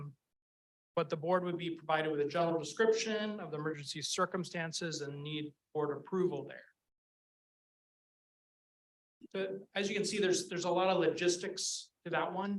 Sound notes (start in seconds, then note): none